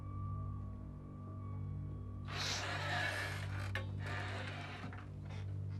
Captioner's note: la porte s'ouvre en grinçant